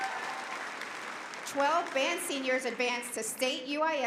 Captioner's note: applause